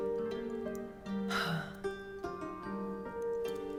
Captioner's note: Elizabeth sighs; relaxing music